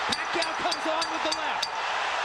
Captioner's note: bell dings